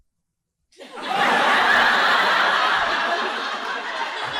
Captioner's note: audience laughing